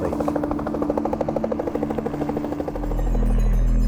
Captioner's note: helicopter buzzing; lighthearted music